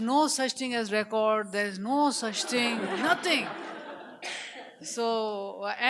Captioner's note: audience laughs